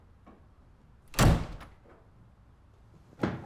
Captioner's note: door closes